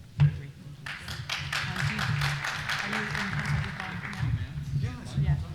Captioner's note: applause